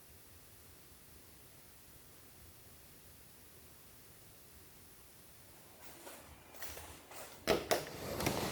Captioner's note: sliding door